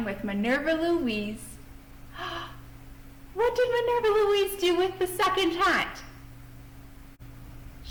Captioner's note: gasp